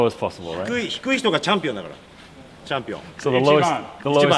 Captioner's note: speaking in Japanese